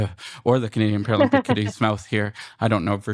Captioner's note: laughs